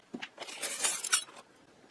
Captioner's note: clinking